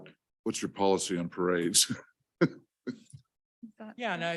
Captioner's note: chuckles